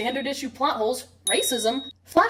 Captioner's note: ding